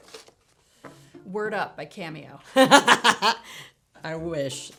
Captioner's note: Zelda laughs